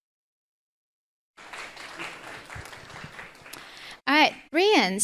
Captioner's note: group applauding